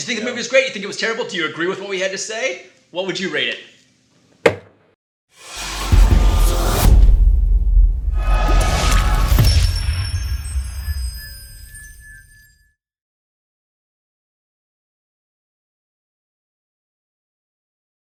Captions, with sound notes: - Yeah, did you think the movie was great? You think it was terrible? Do you agree with what we had to say? What would you rate it? (clanking stamp) (dramatic sound effects) (magical sound effects)